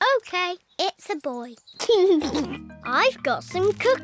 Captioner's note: giggles